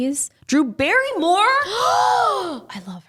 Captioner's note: both gasp